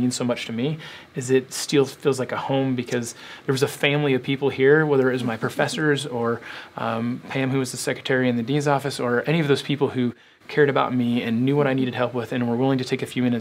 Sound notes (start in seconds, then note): 4.8 laugh